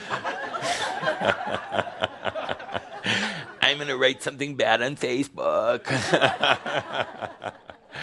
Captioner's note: laughter